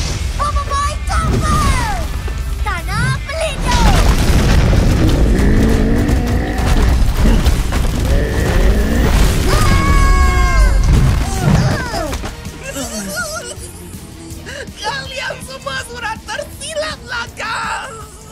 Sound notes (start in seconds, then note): 4.8 growling; 9.4 Maripos and BoBoiBoy scream; 12.5 both groan; 12.6 snickering